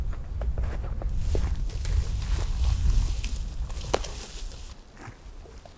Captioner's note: footsteps rustling